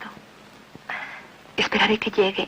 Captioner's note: none